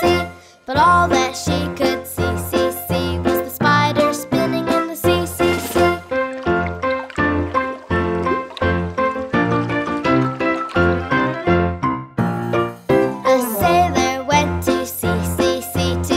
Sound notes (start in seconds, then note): 5.2 water burbles; 6.0 bright music